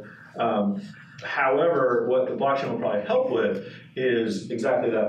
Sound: speaking faintly

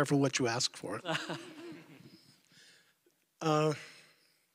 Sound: laughter

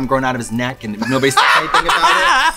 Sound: laughs

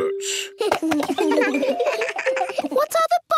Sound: giggles

